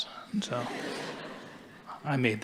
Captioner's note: audience laughing